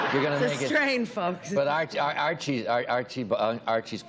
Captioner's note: laughter